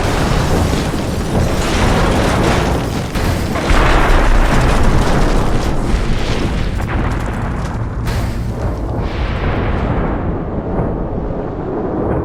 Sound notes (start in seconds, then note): 0.0 glass breaking and explosions